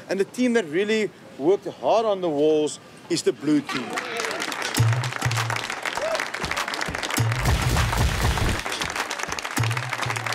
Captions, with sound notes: and the team that really worked hard on the walls is the blue team. (cheering and hand clapping) (bold music)